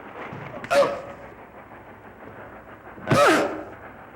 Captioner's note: grunting